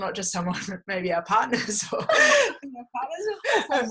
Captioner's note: laughs